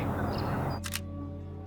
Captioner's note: camera shutter